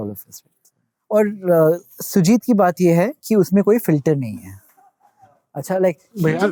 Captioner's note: speaking in Hindi